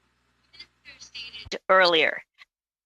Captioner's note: speaking French